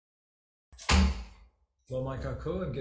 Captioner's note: gavel thuds